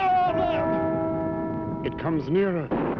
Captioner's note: bell chiming